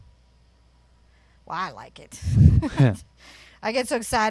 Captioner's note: chuckles